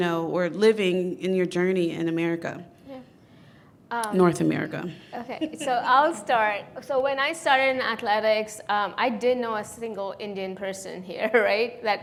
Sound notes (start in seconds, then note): 5.1 panelist laughing